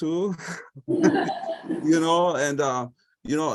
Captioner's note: laughter